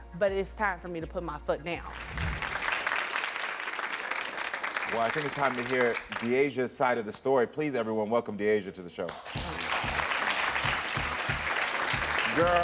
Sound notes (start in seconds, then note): 1.8 audience clapping; 9.1 audience clapping; 9.2 upbeat music